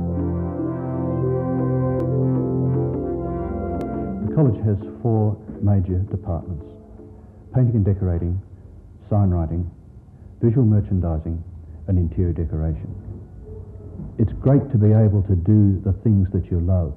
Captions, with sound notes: - [Voiceover] The college has four major departments. Painting and decorating, sign writing, visual merchandising, and interior decoration. It's great to be able to do the things that you love